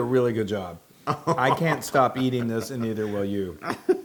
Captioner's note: laugh